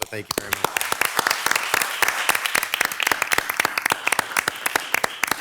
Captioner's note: audience clapping